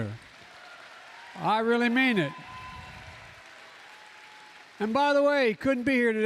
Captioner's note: applause